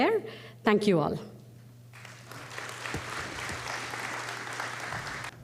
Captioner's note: applause